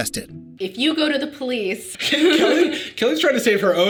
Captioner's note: laughs